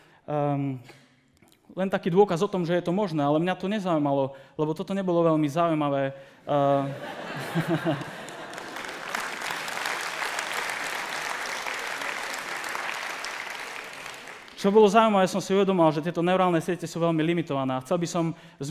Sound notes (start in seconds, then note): 6.7 laughter; 9.2 applause